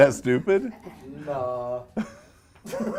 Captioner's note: laughs